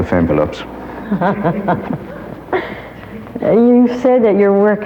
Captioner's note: audience laughs